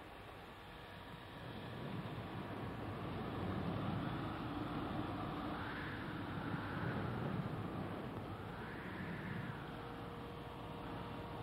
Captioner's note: hair dryer